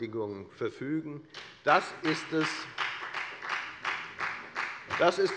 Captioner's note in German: Beifall bei der FDP